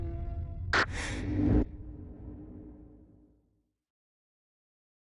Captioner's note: logo clicks